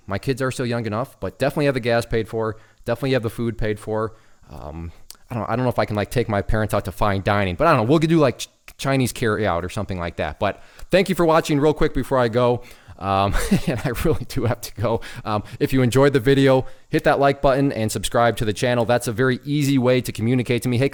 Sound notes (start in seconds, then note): 13.2 laughing